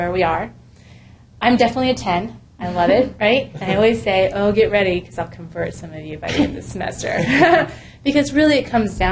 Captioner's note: laugh